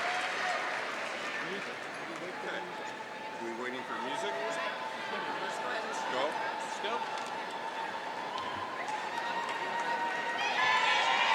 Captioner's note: cheering & Applause